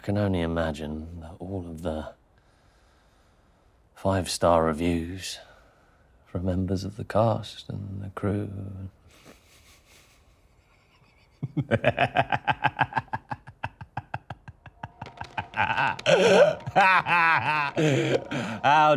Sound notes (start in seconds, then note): 11.1 Danny laughs; 14.8 ominous music